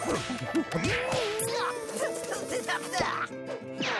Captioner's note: struggling grunts